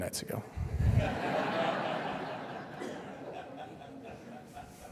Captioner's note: laughter